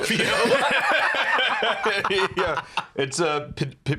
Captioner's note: both laughing